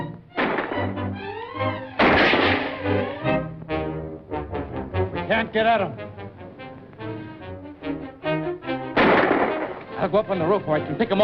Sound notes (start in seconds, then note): 0.2 gunshots; 8.9 gunshot